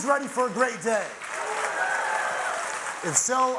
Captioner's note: audience applauding; audience cheering